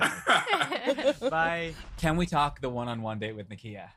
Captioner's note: laughter